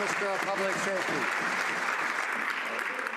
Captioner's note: some Applause